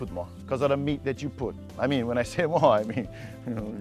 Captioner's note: chuckling